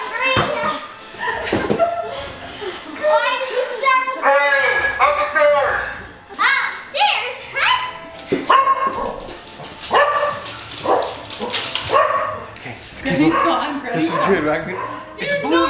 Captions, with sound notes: Help Granny up! (laughing) Why did you startle me? - Granny, upstairs! - Upstairs, huh? (dog barking) - Okay let's keep looking. - Granny's gone, granny's gone. - Okay, this is good, right?